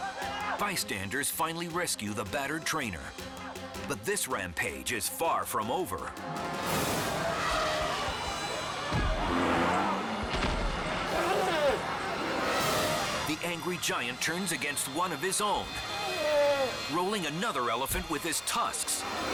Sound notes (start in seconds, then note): 7.0 attacking elephant trumpets; 8.6 stationary elephant thuds